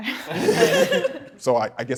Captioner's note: contestants laughing